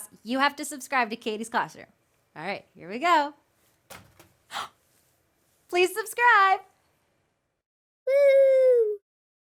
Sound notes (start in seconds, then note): 4.5 gasps